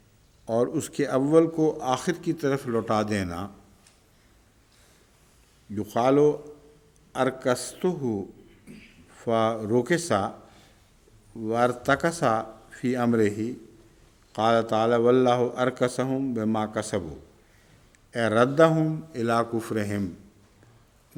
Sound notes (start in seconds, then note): 5.6 Arabic